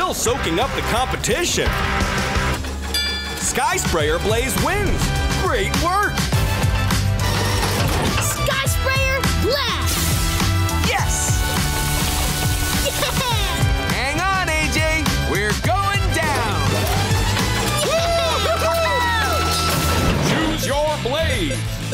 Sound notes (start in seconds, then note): 17.6 cheering